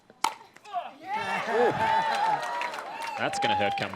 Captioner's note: cheers